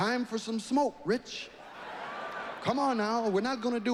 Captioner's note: audience laughing